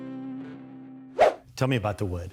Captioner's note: upbeat music; swoosh